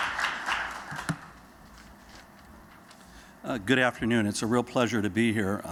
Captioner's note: applause